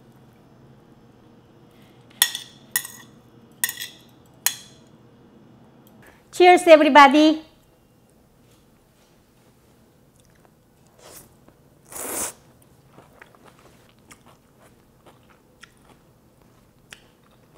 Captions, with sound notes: Cheers, everybody! (slurps)